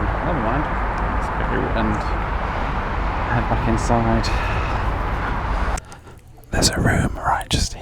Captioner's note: chuckles; sighs